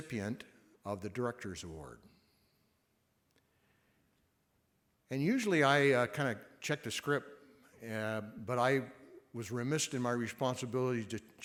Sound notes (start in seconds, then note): none